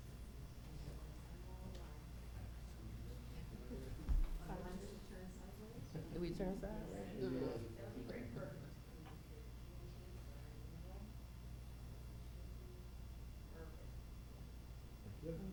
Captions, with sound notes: - We turn first, Did we turn fast? - Everybody, perfect. (group chattering) - One, two, three, perfect.